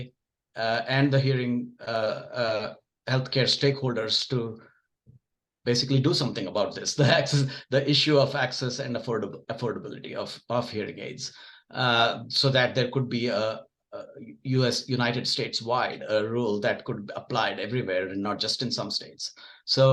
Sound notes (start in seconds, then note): 7.0 chuckles